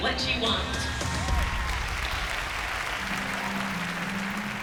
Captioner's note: applause